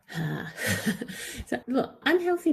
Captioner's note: laughs